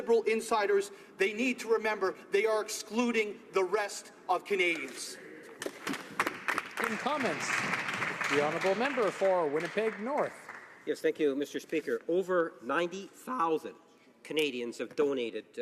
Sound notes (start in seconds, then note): 10.9 applause